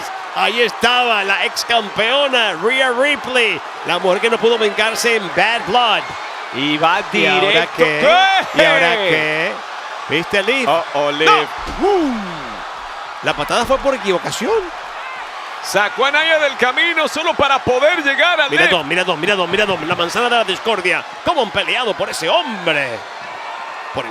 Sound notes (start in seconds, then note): 7.7 laugh